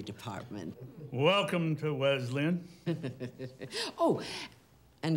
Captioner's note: chuckles